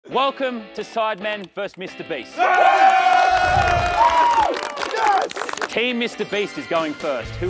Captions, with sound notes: [guitar music] - Welcome to Sidemen vs. Mr. Beast. [contestants clapping and cheering] - Woo! Yes! - Team Mr. Beast is going first.